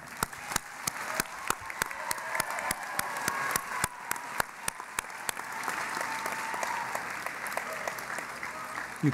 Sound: cheering and Applause

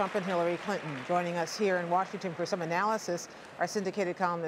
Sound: applause

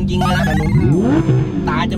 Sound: engine rumbling aggressively

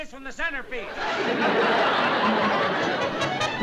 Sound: laughter

